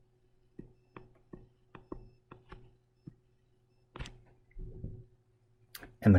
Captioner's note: writing Sounds